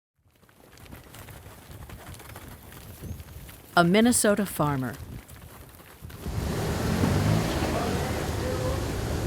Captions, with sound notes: (sound of cattle running) A Minnesota farmer. (truck noises)